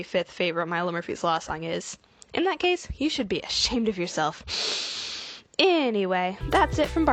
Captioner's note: deep breath